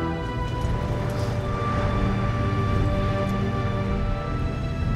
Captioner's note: water splashing